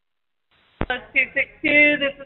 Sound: phone rings

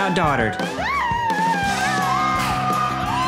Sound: howling; screaming

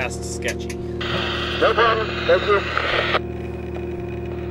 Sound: radio voice

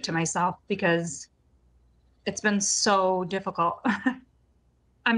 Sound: chuckling

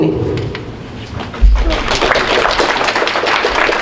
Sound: group applauds

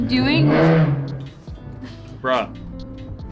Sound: engine roars

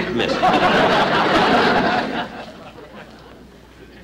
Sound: audience Laughing

